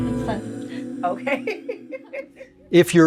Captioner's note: laughter